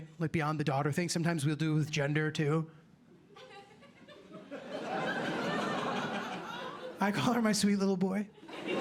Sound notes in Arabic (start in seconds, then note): 3.4 ضحك